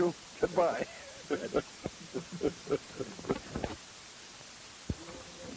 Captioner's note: laughing